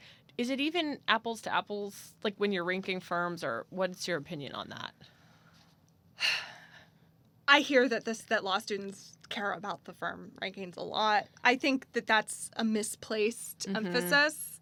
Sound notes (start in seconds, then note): 7.0 sighs